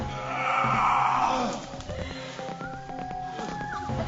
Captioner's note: grunting